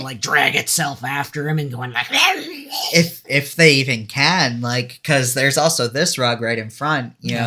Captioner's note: monster noises